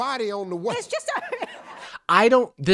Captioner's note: laughing